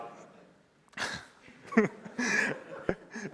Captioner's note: laughter